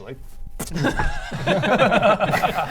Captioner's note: laughs